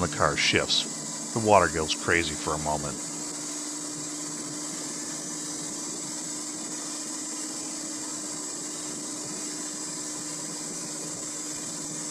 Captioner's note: engine & wheel spinning noise